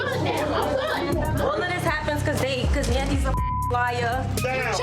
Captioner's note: beep